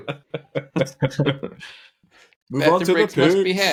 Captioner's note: laughing